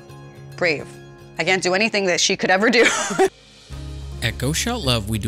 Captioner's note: laughs